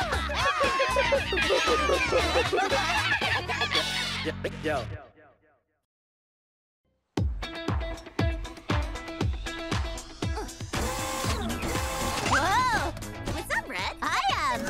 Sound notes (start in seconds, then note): 0.1 monkey cries; 7.2 upbeat music; 10.7 whirring